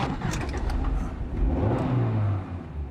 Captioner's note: engine revs